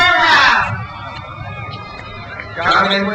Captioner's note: crowd cheers